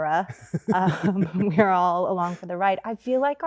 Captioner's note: Andrew laughs